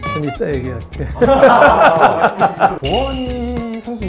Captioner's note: crowd disappointed